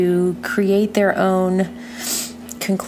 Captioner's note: breathe in through nose